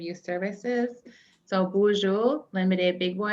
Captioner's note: non-english speech